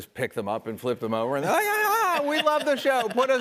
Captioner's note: laughing